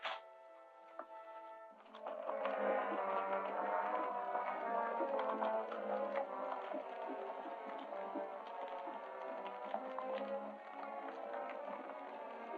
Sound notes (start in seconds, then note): 1.9 suspenseful music; 4.8 hooves clattering